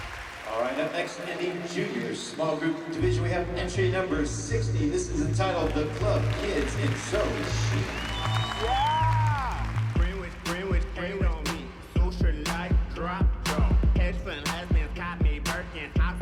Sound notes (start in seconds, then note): 7.7 cheers and applause; 10.6 singing